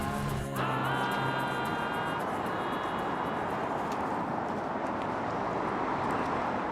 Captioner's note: traffic rushes by in the distance